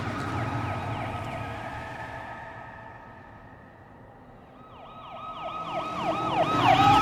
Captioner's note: police siren noises